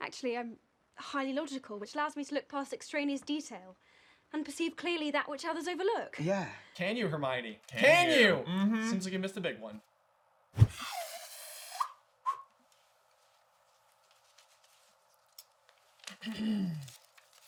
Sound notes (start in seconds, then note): 10.6 whistle